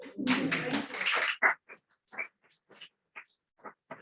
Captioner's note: clapping